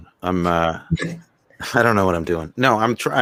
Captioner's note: everyone laughing